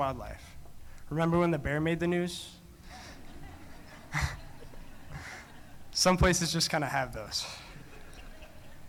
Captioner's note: laughing